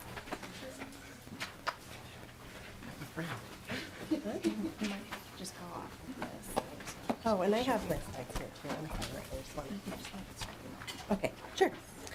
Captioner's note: laughing